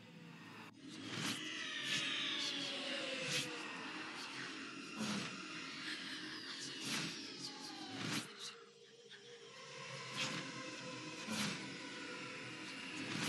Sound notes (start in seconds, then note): 0.2 cacophony of whispers